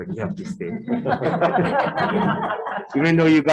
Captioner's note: attendees laughing